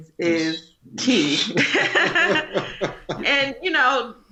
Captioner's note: humble laughter